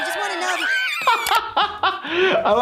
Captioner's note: laughing; more screaming